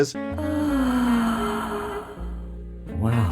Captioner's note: pollyanna moans unmistakeably